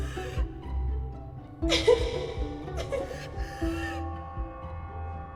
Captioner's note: laughs